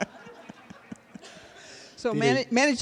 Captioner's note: laughter